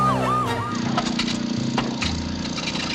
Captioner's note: motor sputters, whirs